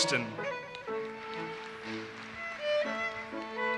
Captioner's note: audience applauses